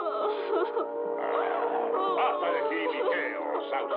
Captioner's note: crying